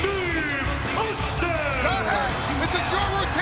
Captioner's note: audience cheers